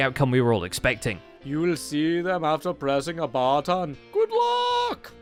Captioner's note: fake accent